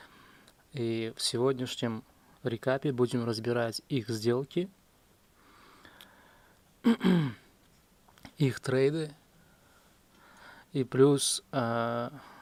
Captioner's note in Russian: кашель; откашливается